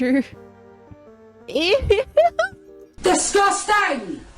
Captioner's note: laughs